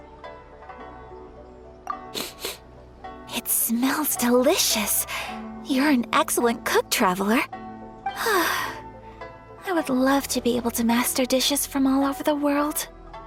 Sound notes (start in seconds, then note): 2.1 sniff; 8.2 sigh